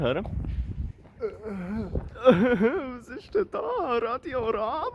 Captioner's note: ape noises